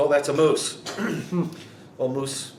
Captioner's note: interviewer laughing